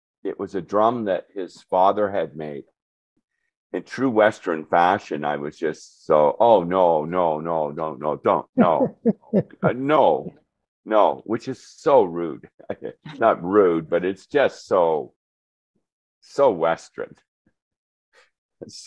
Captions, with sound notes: it was a drum that his father had made. In true Western fashion, I was just so, "Oh, no. Don't, no." [laughter] No, no. Which is so rude. Not rude, but it's just so, so Western.